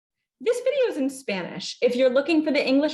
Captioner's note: hablando en inglés